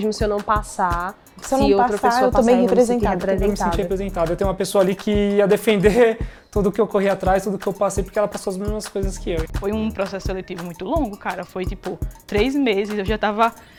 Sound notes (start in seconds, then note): 0.1 woman speaking Portuguese; 3.7 man speaking Portuguese; 9.8 speaking Portuguese